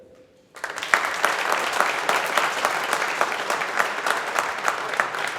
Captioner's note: audience applauding